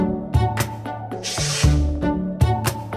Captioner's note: upbeat instrumental music; text transition whooshing; upbeat instrumental music